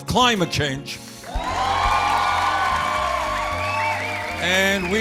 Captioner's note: cheers and applause